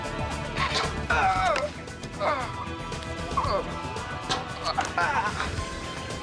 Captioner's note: crying out; whooshing